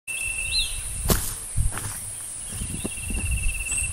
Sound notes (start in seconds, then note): 1.0 footsteps